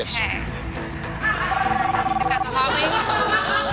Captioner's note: phone ringing